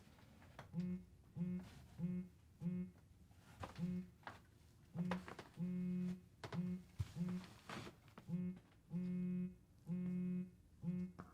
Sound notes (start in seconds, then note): 0.7 phone buzzing